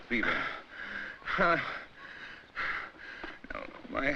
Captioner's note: Barney panting, groans